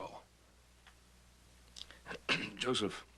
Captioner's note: clearing throat